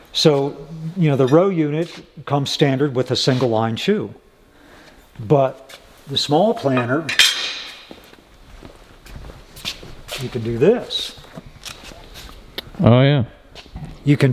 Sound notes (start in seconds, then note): 6.6 metal clanking